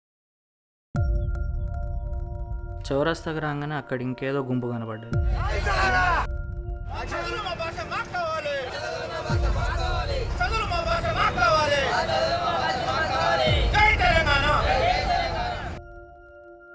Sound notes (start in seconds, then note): 5.3 crowd chanting; 8.9 crowd repeats; 12.1 crowd repeats; 15.7 crowd